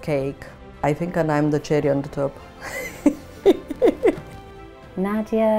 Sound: laughs

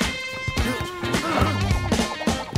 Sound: grunting

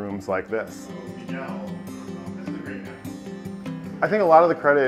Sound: people talking

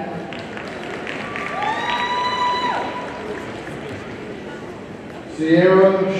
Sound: audience cheering and applauding

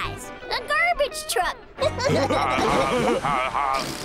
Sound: laughing

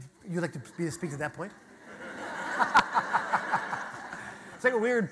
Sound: audience laughter

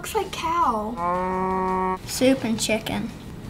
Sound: cow lows

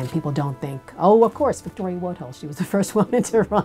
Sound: laughs

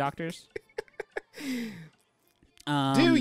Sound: laughing; singing

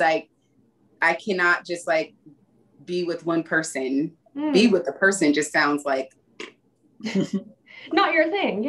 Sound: blows raspberry

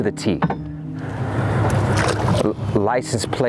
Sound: water splashing

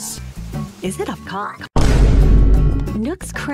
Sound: boom

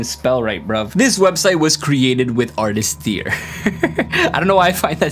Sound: laughs

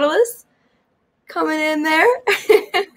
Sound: laughs

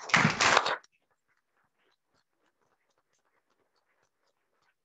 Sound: audience clapping

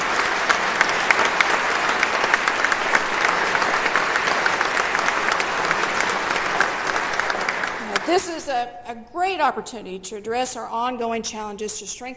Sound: applause

